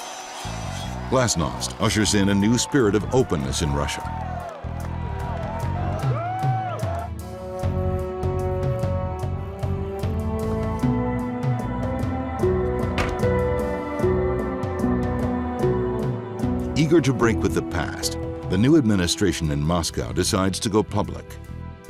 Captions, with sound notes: Glasnost ushers in a new spirit of openness in Russia. (protestors cheering) (suspenseful music continues) - Eager to break with the past, the new administration in Moscow decides to go public.